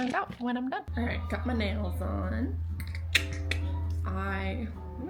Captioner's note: clicks tongue